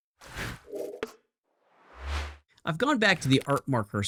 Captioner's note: air whooshing